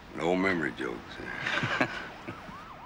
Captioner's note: laughs